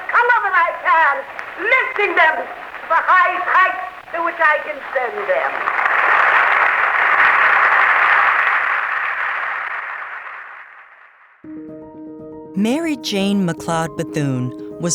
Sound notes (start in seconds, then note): 4.7 crowd clapping and applauding